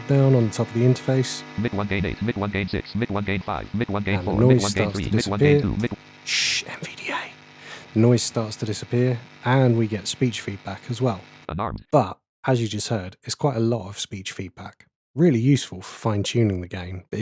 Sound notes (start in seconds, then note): 0.0 automated voice; 2.1 automated voice; 10.7 automated voice